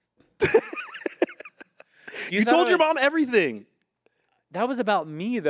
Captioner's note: laughs